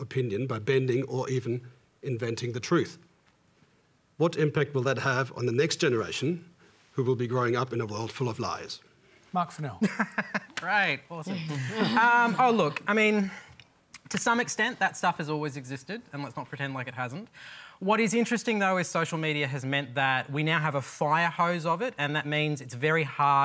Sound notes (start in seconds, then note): 9.9 laughs